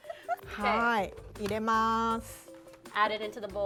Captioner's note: laughs; speaking Japanese